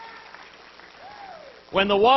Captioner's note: applause